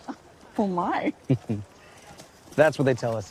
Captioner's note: chuckles